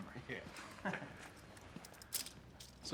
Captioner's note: both chuckle